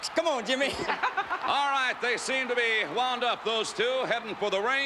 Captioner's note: laugh